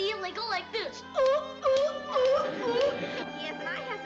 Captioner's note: sea lion sounds